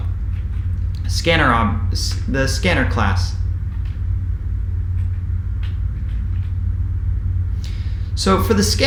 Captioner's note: keyboard typing sound